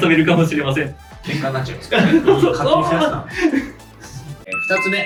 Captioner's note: laughs